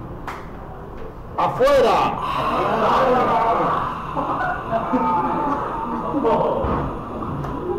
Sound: breathing

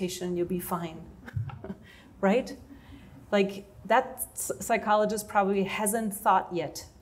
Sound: laughter

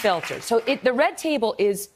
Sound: applause

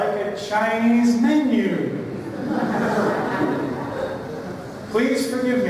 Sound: laughter

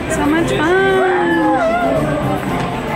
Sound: woo-ing

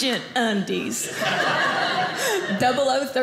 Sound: audience laughing

